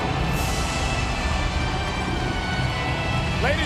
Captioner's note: audience cheering